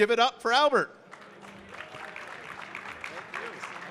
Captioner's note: audience clapping